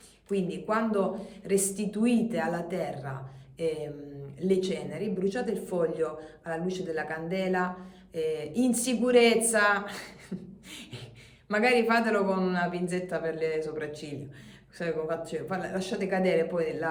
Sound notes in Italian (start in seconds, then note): 9.9 risate